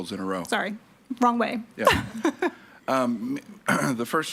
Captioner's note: laughs